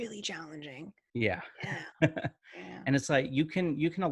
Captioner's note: chuckling